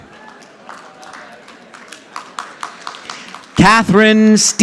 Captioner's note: audience applauding